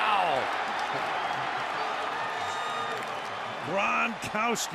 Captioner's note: cheering